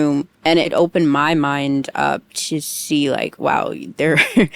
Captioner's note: laughs